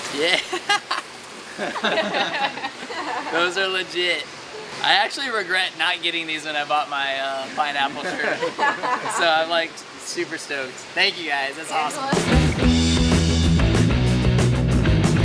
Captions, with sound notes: Yeah! (laughs) (people laugh) Those are legit. I actually regret not getting these when I bought my pineapple shirt. (people laugh) So I'm like super stoked, thank you guys, that's awesome. (upbeat music)